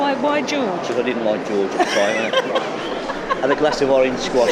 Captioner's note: she laughs